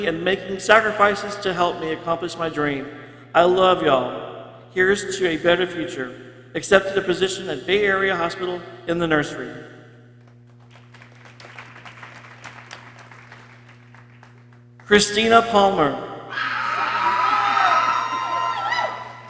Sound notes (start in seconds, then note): 10.2 people clapping; 16.3 people cheering